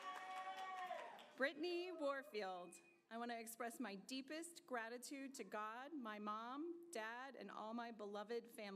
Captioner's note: applause